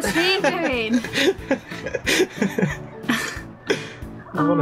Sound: laughter

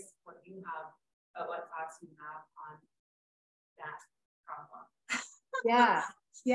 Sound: laughs

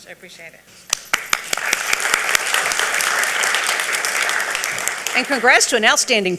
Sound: audience applauding

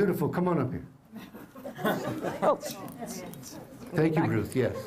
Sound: laughter

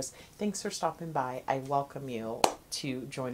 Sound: hands clapping

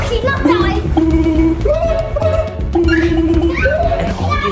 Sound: murmuring; creature mumbling

